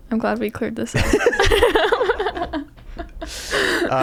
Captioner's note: laughing